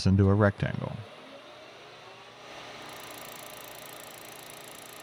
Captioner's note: machine whirring